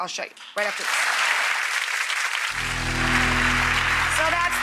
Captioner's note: audience applauds